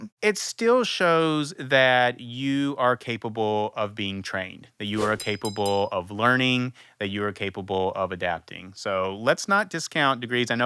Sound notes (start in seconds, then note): 5.0 wind whooshing; 5.0 bell ringing